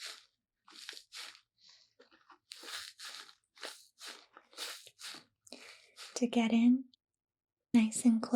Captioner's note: squishing sounds